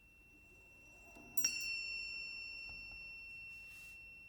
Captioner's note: bells chime